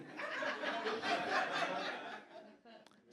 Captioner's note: audience laughs